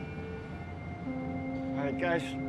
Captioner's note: boat horn blaring